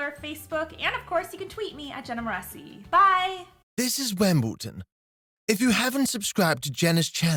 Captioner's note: high-Pitched Male Voice